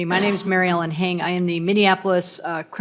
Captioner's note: laughing